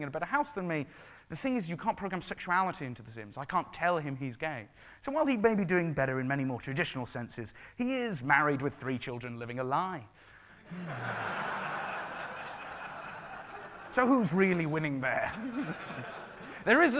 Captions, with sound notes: living in a better house than me, the thing is, you can't programme sexuality into the Sims. I can't tell him he's gay. So while he may be doing better in many more traditional senses, he is married with three children living a lie. (laughing) So who's really winning there?